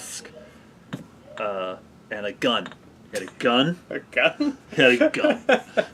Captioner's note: laughing; laughs